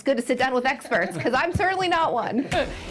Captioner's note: laughter